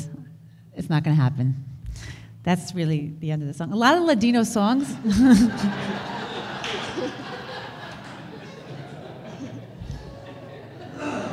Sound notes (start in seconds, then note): 4.9 audience laughter; 5.0 laughs